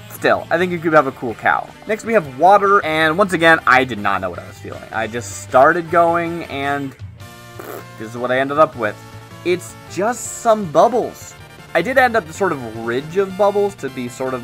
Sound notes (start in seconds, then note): 7.5 pbbbt